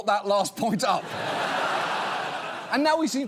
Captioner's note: studio audience laughs